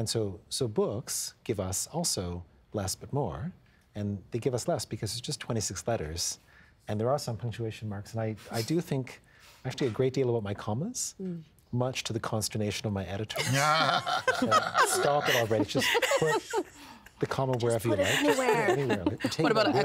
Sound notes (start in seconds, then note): 13.4 all laughing